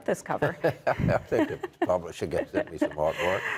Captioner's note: laughs